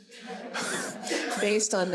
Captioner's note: audience laughs